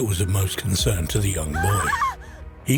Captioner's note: person screaming